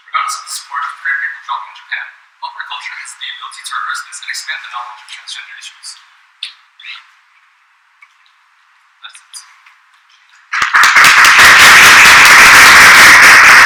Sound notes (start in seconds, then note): 10.5 boisterous applause